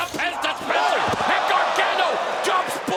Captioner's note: crowd gasping